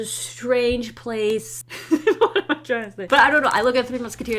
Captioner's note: laughs